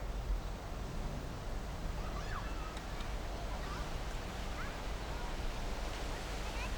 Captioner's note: children playing in the background